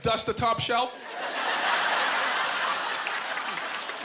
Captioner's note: laughing